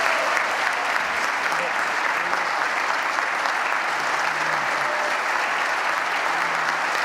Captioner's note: applause